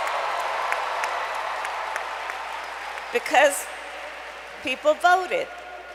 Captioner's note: applause